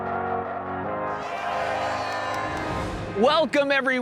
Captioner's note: fans cheering